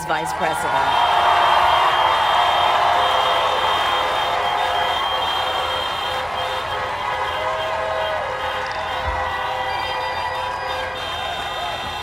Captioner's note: applaud